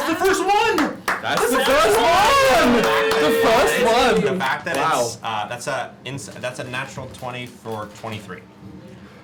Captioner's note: cheering